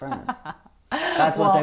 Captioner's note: laughs